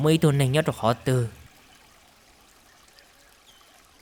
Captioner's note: silence